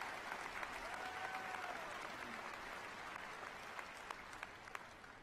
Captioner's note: applause